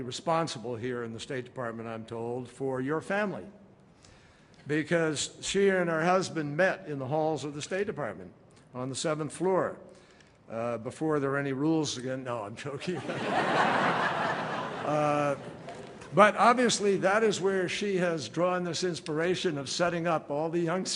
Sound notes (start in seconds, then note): 15.4 laughter